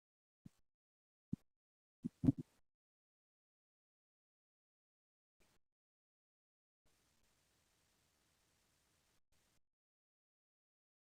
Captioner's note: no sound